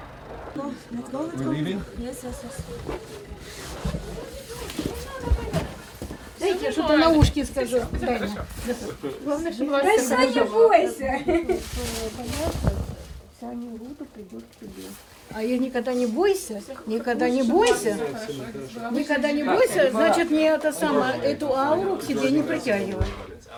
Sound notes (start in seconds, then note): 8.5 group speaking; 10.0 woman whispers